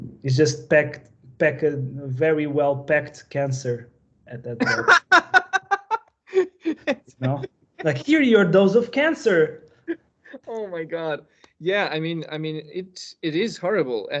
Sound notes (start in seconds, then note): 4.6 laughing